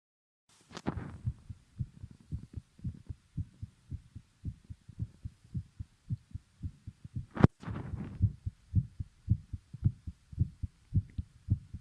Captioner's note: heartbeat sound only